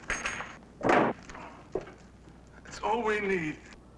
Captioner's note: cat thuds